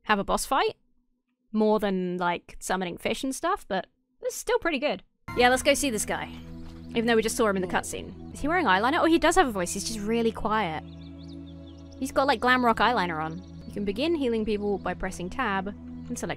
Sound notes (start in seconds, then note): none